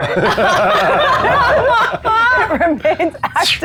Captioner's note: players laughing